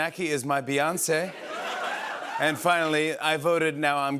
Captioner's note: laughter